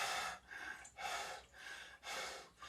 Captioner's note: none